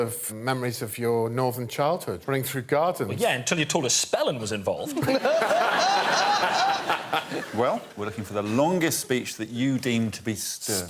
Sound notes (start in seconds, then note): 7.2 laughter